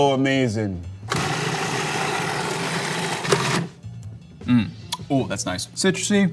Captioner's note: blender whirring